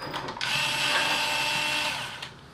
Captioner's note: whirrr